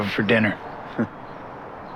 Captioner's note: Tom laughs